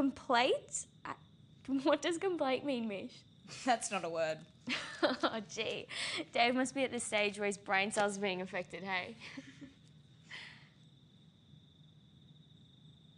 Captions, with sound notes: Complate, what does complate mean, Mish? - That's not a word. - (laughs) Gee, Dave must be at the stage where his brain cells are being affected, hey?